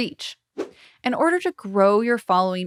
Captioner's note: logo whooshing